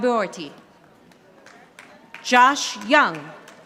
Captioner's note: audience applauding